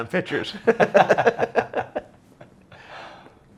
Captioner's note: laughs